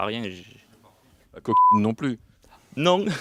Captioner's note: beep